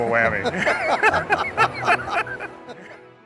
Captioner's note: laughter